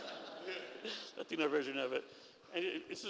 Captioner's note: laughter